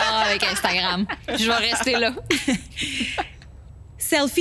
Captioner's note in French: rires